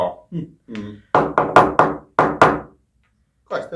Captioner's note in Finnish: nuijan koputusta